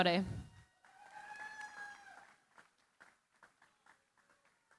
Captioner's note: cheering, applause